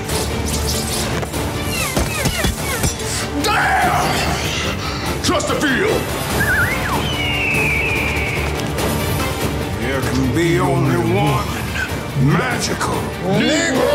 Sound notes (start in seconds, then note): 0.0 magic thwiping; 2.0 projectiles whizzing; 6.3 repairman whistling; 7.7 bird cawing; 8.7 dramatic music